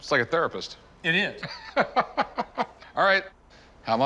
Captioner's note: Rick laughs